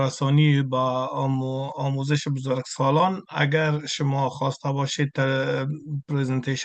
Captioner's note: interpreter speaking in Farsi continued